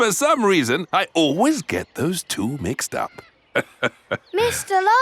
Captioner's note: laughs